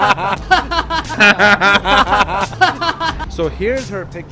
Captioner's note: laughing